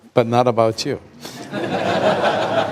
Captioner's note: laughter